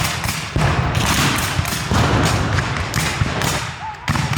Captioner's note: guns fire